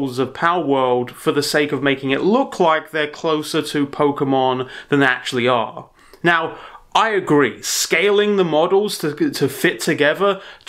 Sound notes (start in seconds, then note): none